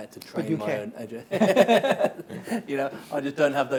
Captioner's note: both laughs